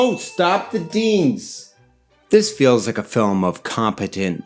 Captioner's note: ding